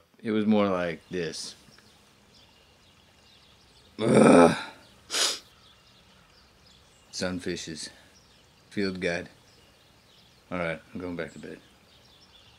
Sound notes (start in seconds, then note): 2.0 birds singing; 4.0 groans; 5.0 sniffles